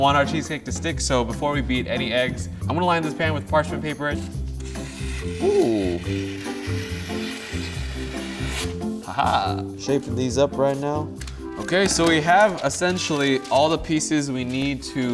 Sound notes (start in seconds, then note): 6.7 mellow music; 7.6 cutting sound